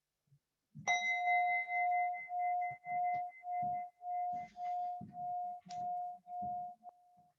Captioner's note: bell chimes